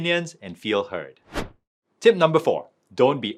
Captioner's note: screen wipe whooshes